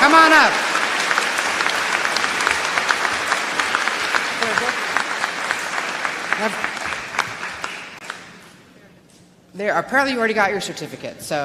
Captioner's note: applause